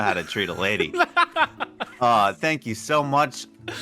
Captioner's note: bursts out Laughing